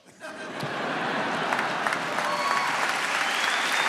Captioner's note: audience clapping